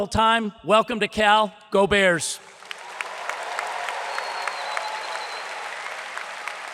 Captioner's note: audience applauds